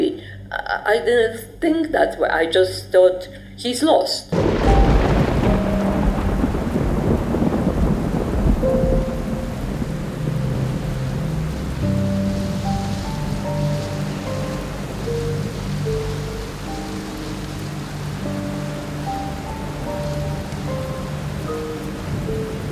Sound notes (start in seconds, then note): 4.8 soft poignant music; 4.8 thunder rumbling